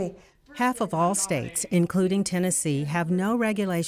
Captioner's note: voiceover